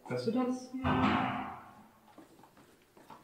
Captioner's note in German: Klopfen